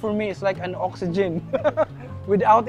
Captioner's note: laughs